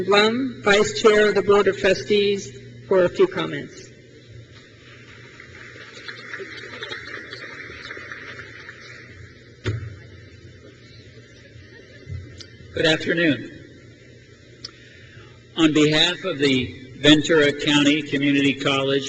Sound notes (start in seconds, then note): 4.9 crowd claps